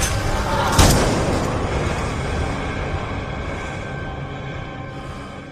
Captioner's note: gun shot